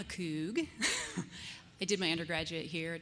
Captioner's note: laughter